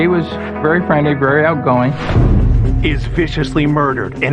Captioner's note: air whooshihing